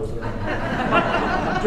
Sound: audience laughs

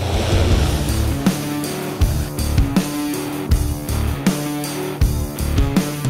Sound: drone humming; upbeat music

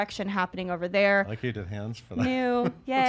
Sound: chuckles

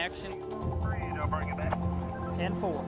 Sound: chatter over the radio

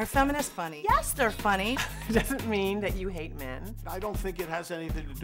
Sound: laughs

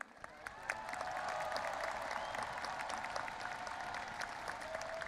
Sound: audience applauding and cheering

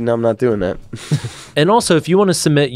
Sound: laughs

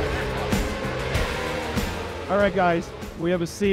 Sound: upbeat music; motorbike engines roaring

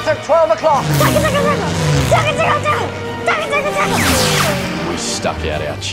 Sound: imitating gun shots

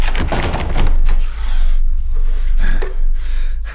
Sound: heavy breathing

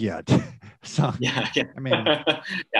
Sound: laughs

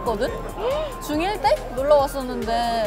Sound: gasp!

